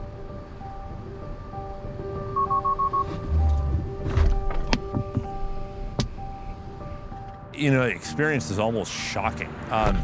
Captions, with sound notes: (car beeps) - You know, the experience is almost shocking.